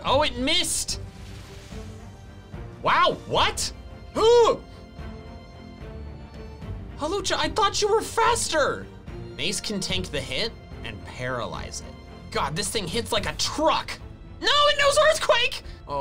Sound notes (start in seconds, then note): 4.5 groans